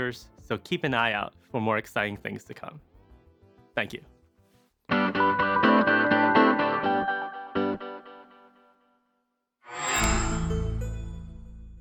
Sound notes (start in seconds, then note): 5.0 upbeat music playing; 9.8 microsoft sound